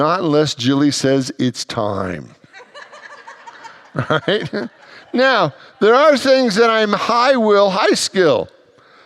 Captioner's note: congregants laugh